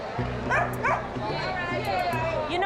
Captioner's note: dog barking